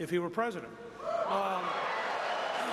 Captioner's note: applause